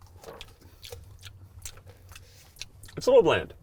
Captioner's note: slurping; smacking